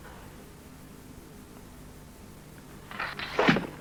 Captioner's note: none